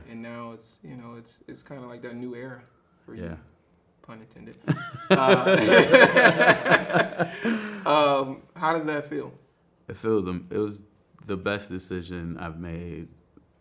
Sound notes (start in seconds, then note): 4.6 both laughing